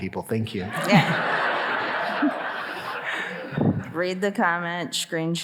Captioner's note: audience laughing